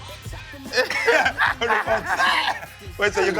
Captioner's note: laughter